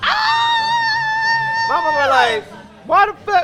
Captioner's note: shrieks